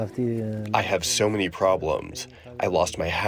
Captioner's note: through translator